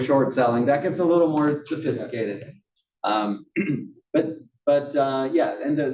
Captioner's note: cough